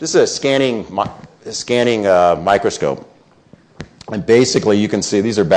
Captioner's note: none